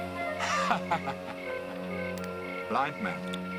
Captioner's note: laughing